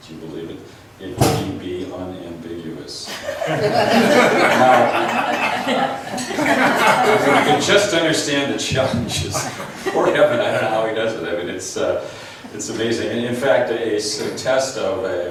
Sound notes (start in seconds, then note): 3.1 laughs; 9.3 chuckles